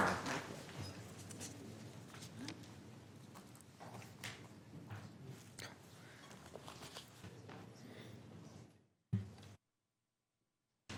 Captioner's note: applause